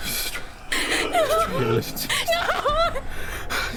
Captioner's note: whispering